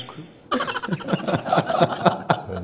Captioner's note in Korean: 웃음